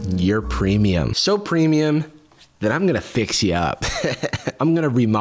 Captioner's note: fuckboy laughter